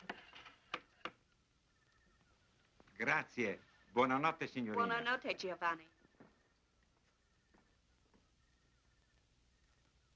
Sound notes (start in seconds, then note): 3.0 Italian spoken audio